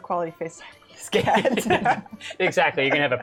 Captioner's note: laughter